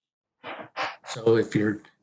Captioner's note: screeches